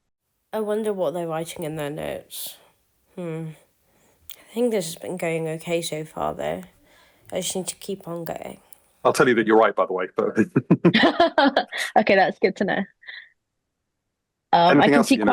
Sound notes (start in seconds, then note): 10.2 laughs